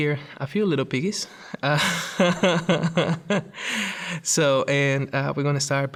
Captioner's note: laughs